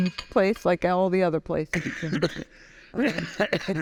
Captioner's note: coughing